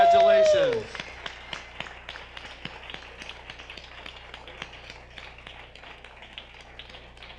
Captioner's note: audience applause